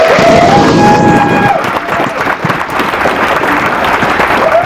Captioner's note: applause